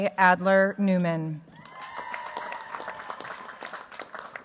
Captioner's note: cheers, applause